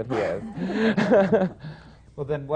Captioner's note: laughter